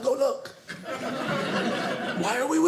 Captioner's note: audience laughing